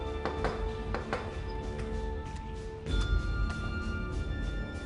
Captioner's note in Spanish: Toques en el vidrio